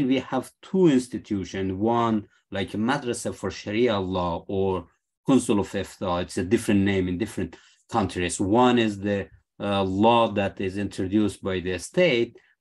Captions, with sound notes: we have two institutions, one, like a madrasa for Sharia law or [SPEAKING ARABIC]. It's a different name in different countries. One is the law that is introduced by the state.